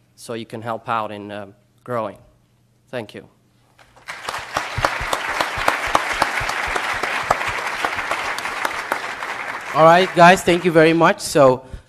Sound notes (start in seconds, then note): 3.9 applause